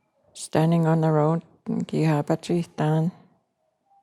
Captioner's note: In Cree, English to follow; In Cree, English to follow